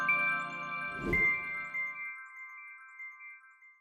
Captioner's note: bright music; wind whooshing